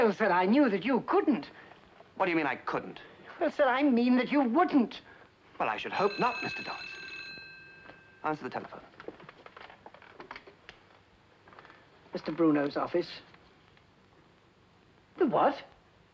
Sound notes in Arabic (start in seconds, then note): 5.8 رنين الهاتف